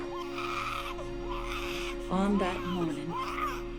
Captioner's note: pigs squealing